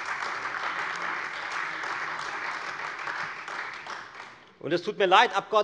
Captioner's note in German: Beifall Freie Demokraten und vereinzelt AfD